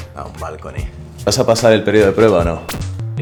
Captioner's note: in spanish